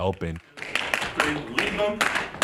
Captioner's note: shoes tapping